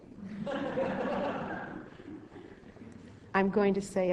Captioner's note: audience laughing